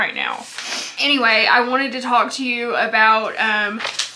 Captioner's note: sniffs